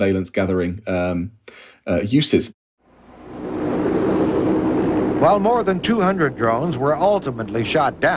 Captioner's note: soundbite of archived recording